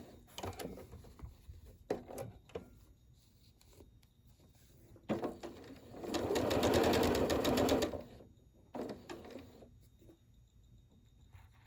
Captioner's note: sewing, lifting foot, adjusting fabric